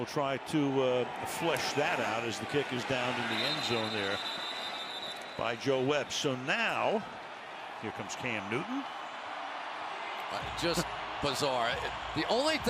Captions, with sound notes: And we'll try to flesh that out as the kick is downed in the end zone there by Joe Webb. So now here comes Cam Newton. [cheering] Just bizarre.